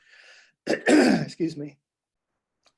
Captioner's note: coughs